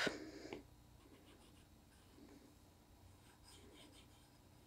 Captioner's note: pencil scratching